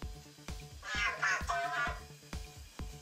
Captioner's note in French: Cozmo parle robot